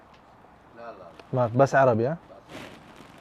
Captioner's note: Arabic